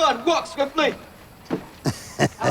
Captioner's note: Gene laughing